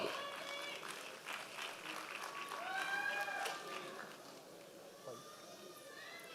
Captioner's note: members of the audience cheering